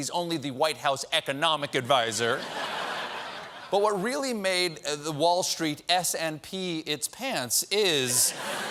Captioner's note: laughter